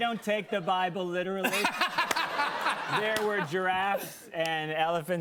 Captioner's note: laughter